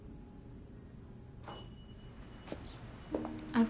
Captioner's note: bell chiming